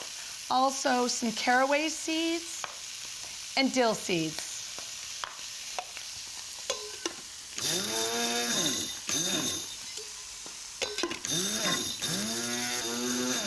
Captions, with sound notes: - Also some caraway seeds - and dill seeds. - [ Motor whirring ] - [ Whirring stops ] - [ Whirring resumes ]